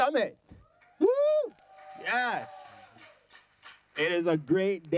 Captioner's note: cheering